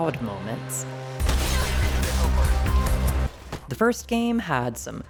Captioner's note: punches, gunshots; glass shatters